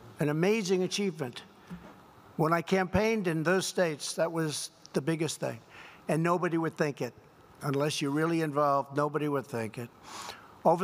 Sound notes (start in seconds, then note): none